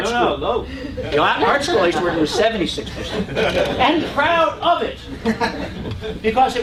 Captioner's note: laugh